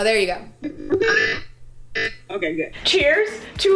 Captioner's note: loud computer noise